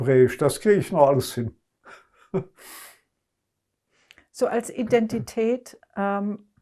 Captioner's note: laughing